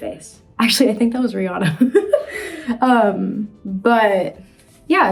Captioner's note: laughs